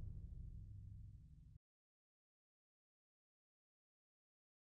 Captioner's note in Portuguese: sem áudio; sem áudio